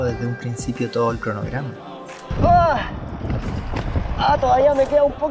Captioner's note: cry of suffering